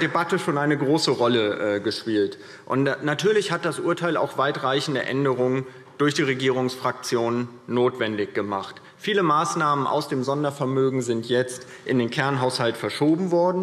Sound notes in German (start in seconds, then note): none